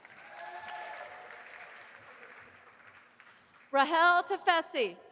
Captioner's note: audience applauding